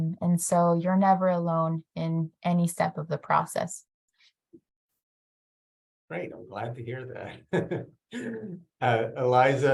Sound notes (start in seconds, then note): 7.3 laughs